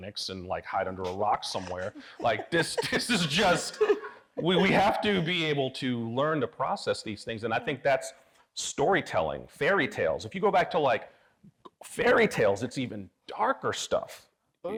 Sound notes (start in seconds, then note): 2.2 audience laughing